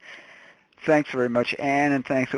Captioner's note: voiceover